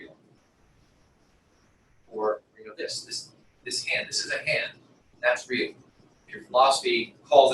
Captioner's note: pause